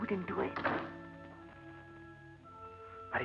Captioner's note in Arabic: صوت طرق الباب